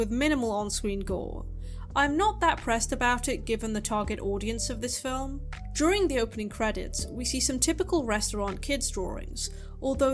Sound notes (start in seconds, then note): none